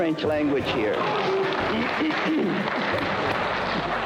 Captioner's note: applause